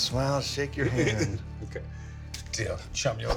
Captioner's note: laughs